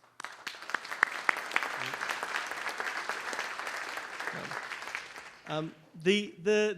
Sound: applause

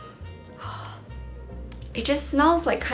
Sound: gasps

